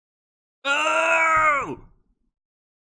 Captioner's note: excited grunting